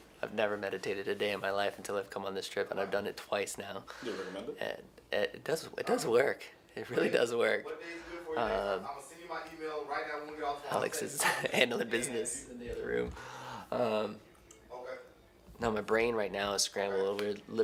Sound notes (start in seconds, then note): 6.8 chuckles; 11.1 chuckles